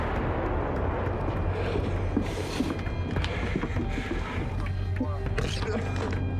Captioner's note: cannon booms; breathes rapidly; grunts